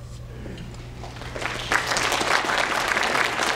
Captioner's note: applause